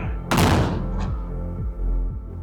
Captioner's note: cannon fire